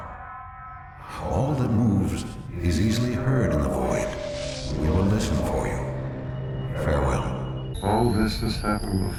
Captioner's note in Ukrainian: спокійним голосом, що відгукується в ехо